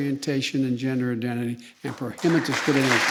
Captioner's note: applause